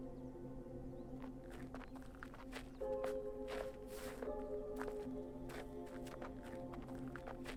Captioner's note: gravel crunching; solemn music